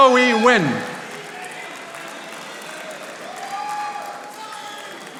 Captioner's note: audience applauding